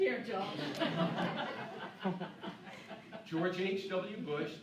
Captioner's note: laughing